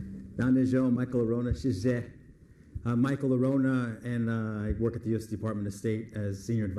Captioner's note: foreign language